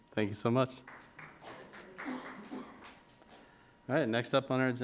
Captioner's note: crowd claps